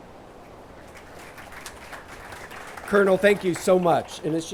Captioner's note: attendees applauding